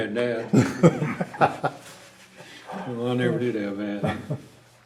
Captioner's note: laughter